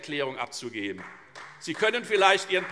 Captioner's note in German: Beifall Freie Demokraten